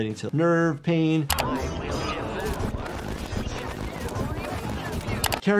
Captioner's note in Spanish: pantalla crepitante